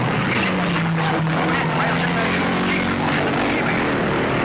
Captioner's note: engines roaring